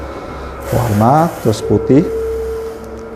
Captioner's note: printer machine noise